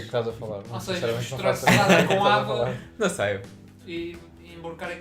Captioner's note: laughs